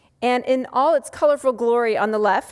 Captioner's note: none